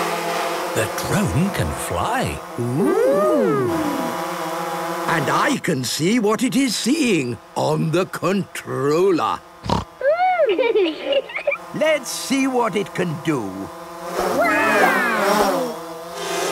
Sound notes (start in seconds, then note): 9.6 snorting; 10.2 laughter